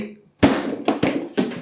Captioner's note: blam!